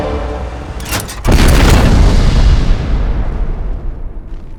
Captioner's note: booming